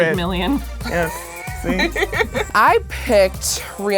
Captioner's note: girls laughing